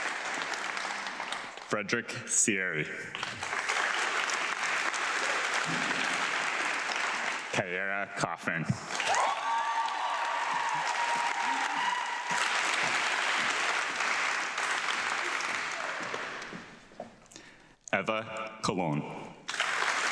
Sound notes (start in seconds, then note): 3.0 audience clapping; 8.8 audience clapping; 19.4 audience clapping